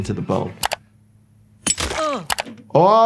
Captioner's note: mouse clicking; hammer clinking; victim grunting